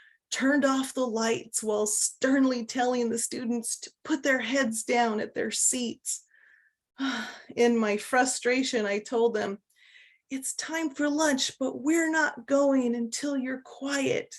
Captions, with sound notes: turned off the lights while sternly telling the students to put their heads down at their seats. 19:14 (Sigh) In my frustration, I told them, 19:16 “It's time for lunch, but we're not going until you're quiet.”